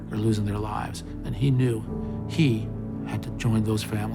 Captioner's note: none